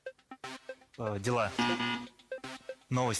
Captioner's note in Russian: пи-пи